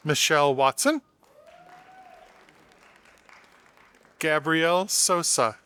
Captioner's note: audience applauding